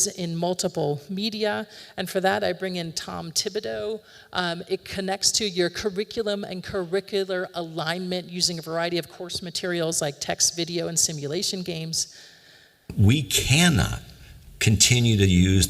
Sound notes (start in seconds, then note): 12.9 recording plays